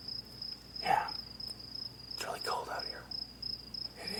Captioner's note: whispering